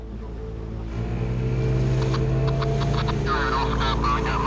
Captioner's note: boat engine revving